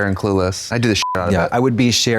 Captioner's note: beep